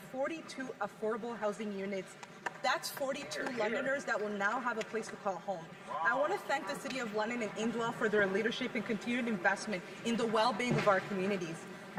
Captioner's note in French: voix de l'interprète